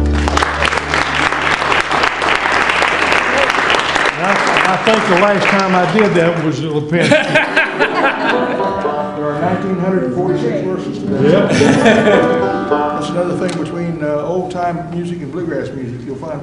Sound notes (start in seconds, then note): 0.0 applause; 6.9 laughter